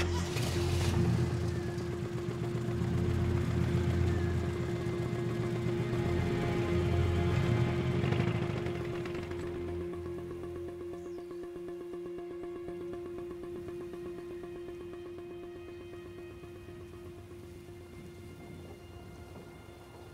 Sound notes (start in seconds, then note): 0.0 engine starting; 7.6 engine rumbles; 11.3 birds chirping